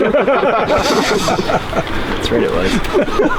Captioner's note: laughing